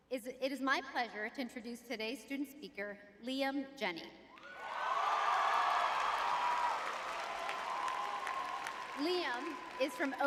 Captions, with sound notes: It's, it is my pleasure to introduce today's student speaker, Liam Jenny. [audience cheering] [applause] Liam is from